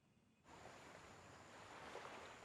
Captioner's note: waves crashing